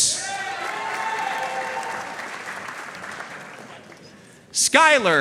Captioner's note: audience cheering and applauding